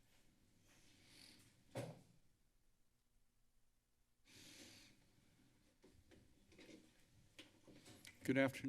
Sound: silence

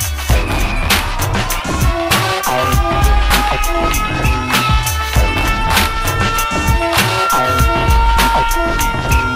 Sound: sirens

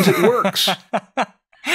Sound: laughter

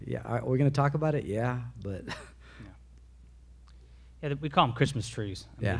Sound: laughs

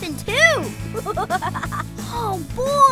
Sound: laughing

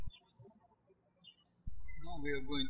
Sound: birds chirping

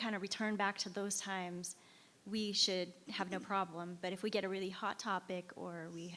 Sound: none

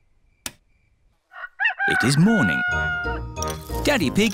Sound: rooster crows

